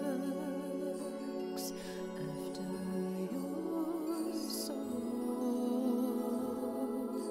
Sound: breaths heavily

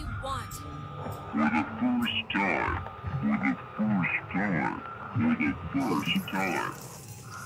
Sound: radio

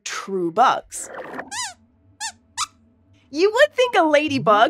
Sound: squeaks squeaks

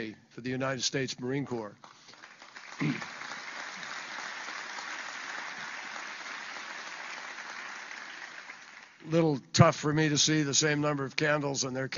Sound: applause

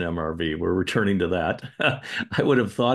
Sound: chuckles

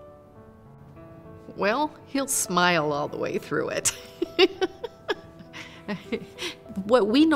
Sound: laughs

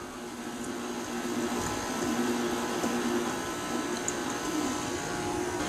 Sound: mixer noise

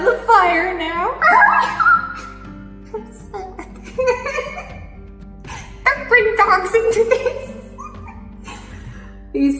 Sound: squeals; laughs

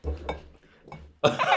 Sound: thump

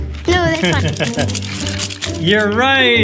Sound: laughs

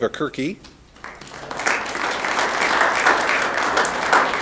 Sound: applause

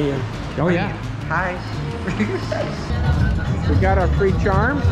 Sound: giggles, embarrassed

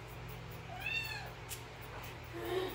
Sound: mreaw

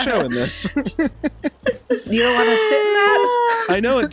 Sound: laughter

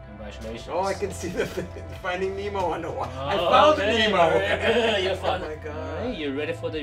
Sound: laughs

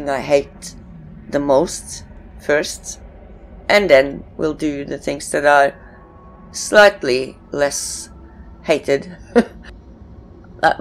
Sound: chuckles

